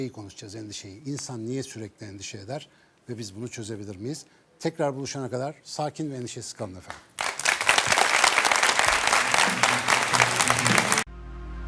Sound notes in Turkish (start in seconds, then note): 6.8 alkış